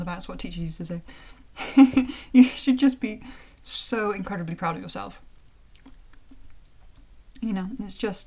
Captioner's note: chuckle